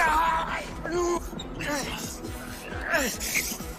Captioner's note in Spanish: Gruñidos